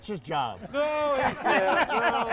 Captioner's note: everyone laughing